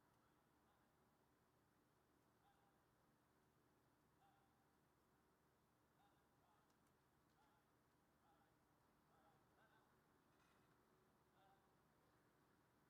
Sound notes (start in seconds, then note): none